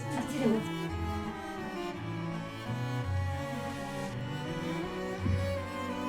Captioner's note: laughs